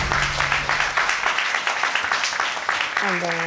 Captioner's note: crowd clapping